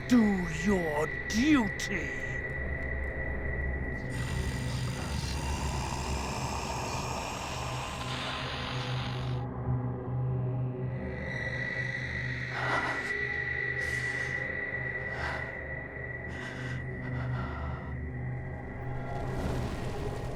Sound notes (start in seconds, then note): 4.1 growling and static; 4.4 whispering voices